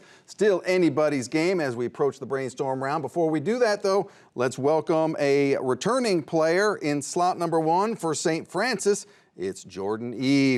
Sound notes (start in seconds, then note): none